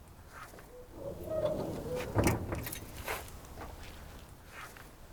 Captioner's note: hood creaking